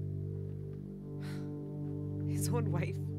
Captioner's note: Scoffs